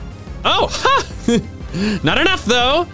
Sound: gasps

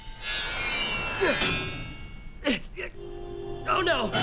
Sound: grunting

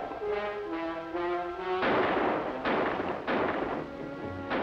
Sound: gun shots

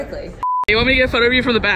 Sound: beep

